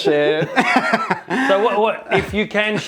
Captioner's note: laughs